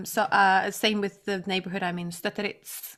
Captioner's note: none